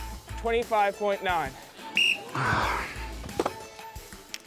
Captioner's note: blows whistle